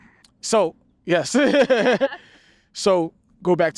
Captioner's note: both laugh